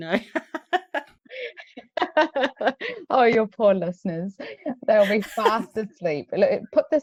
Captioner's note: laughs